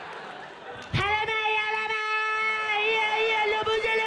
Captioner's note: chanting in gibberish